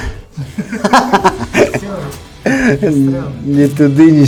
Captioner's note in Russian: смех